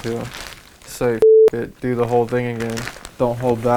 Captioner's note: beep